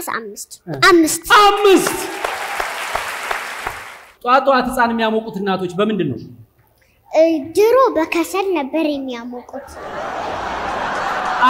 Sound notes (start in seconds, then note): 1.5 applause; 9.6 laughter